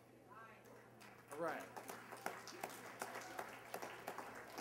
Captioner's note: applause